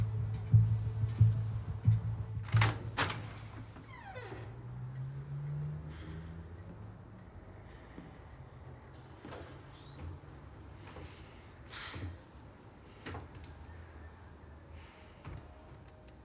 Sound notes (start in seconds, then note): 11.7 sighs